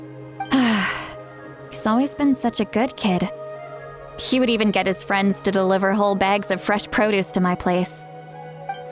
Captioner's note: sigh